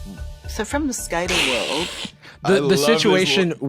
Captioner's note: laughs